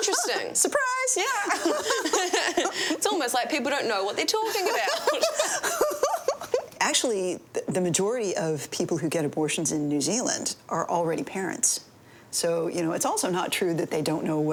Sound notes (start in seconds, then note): 1.4 both laughing; 4.9 both laughing